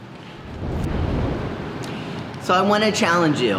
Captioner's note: transition screen whooshing